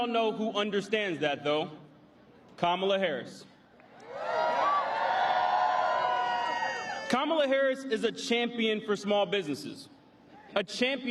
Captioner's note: applause